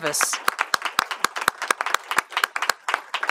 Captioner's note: applause